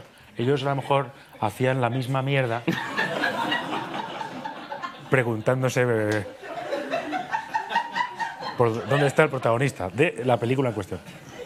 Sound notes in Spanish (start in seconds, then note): 2.6 Risas